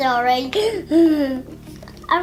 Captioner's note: laughs